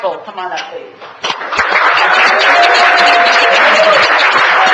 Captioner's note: applause